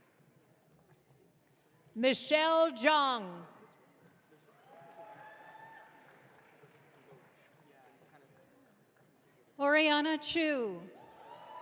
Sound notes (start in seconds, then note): 4.7 audience cheering; 11.0 audience cheering